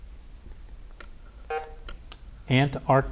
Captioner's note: button buzzing